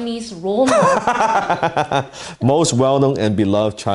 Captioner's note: laughs